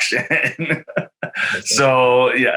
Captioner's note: chuckles happily